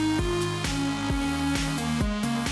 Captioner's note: none